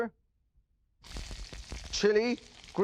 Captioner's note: sizzles